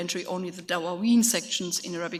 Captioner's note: speaks in a foreign language